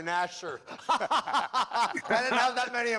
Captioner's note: laughter